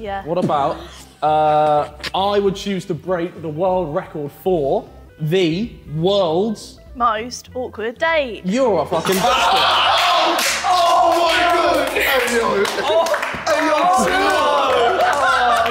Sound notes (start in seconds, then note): 9.0 Sidemen yelling and clapping